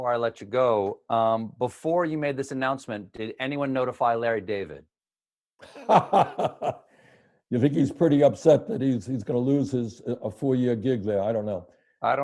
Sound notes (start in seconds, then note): 5.6 laughter